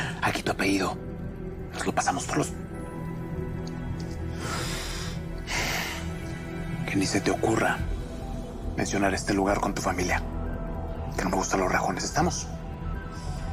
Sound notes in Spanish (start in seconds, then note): 4.3 Inhala y exhala